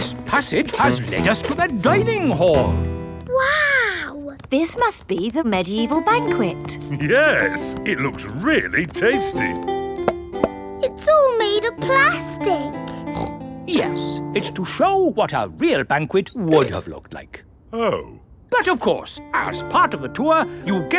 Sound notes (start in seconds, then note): 9.9 hollow taps; 12.8 snorts